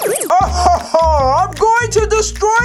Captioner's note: laughs